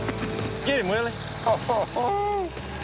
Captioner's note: laughter